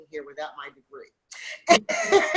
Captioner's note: laughs